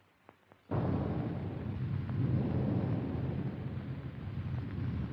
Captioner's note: sound of explosion